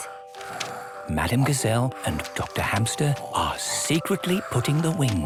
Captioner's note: whispering